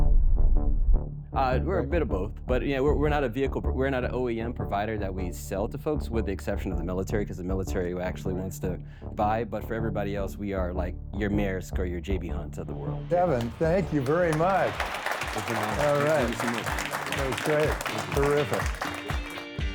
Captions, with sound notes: We're a bit of both, but yeah, we're not a vehicle, we're not an OEM provider that we sell to folks with the exception of the military, because the military actually wants to buy. But for everybody else, we are like your mayor's, or your JB, to the world. Devin, thank you very much. (audience applauding) Thank you very much. All right. That was great, terrific.